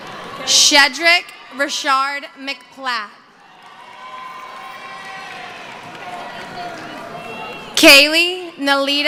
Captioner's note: cheering